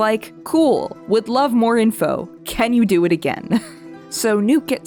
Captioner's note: me chuckling